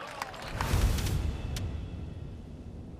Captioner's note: whooshing sound